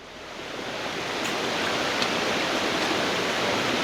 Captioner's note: water streaming